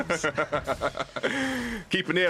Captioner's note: laughs